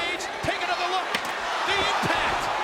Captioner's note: kick thuds